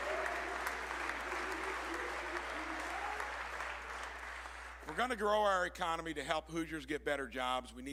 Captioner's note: applause